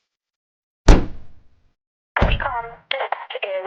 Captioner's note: door closing